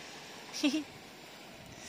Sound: chuckles

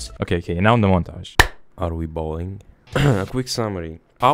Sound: clap

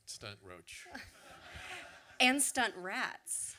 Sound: audience laughter

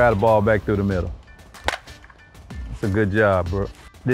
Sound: ball cracks

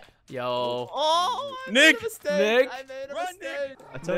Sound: crying

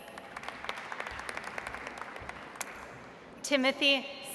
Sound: audience applauds

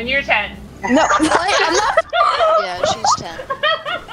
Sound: laughter

